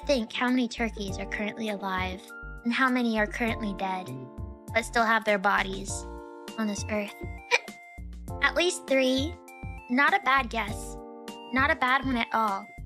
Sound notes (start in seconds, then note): 7.4 hic